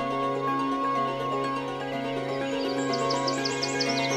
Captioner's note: birds tweeting